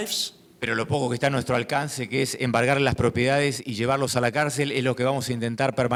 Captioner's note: speaking in foreign language